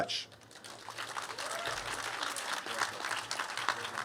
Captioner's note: cheers and applause